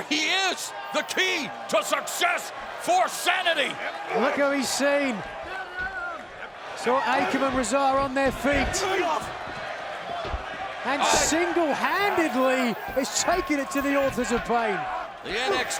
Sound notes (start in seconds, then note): 9.2 wrestlers grunting